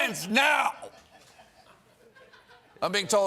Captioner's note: laughter